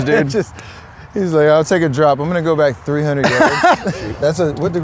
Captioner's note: laughs; laughs